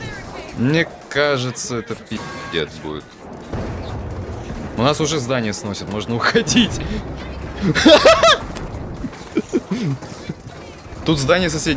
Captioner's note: laugh